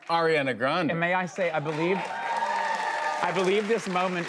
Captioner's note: cheers and applause